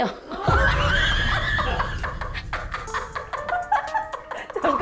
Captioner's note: laughing